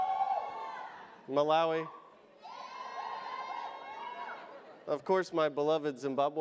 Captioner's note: audience cheers